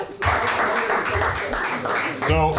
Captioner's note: everyone applauding; everyone laughing